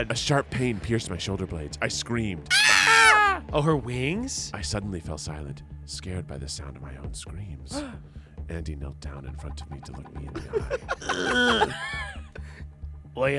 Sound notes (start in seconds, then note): 2.5 screams; 11.0 grunts